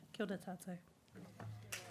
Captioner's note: applause